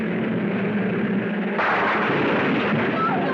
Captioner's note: wall crashing